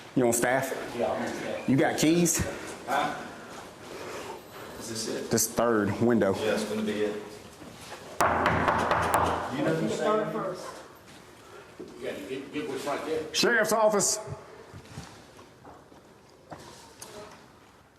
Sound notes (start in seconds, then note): 8.2 knocking; 10.1 indistinct chatter